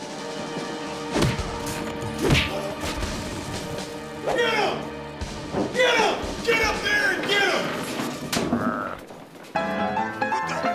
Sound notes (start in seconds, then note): 8.4 growling; 9.3 old timey piano music plays